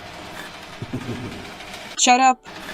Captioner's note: Llwyd laugh